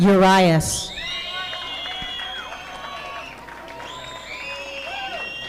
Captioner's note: audience applauding